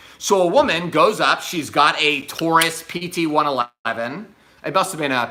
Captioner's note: gun clicks